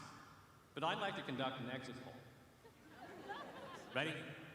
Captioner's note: laughter